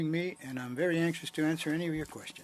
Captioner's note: speaking French